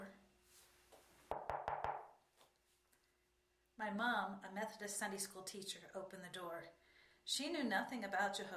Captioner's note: knocking sound